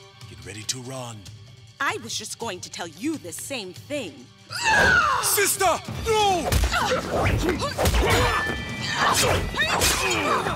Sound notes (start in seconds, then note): 0.3 hushed; 4.6 grunt; 7.0 grunting